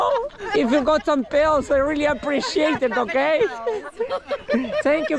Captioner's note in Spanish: Con voz de anciano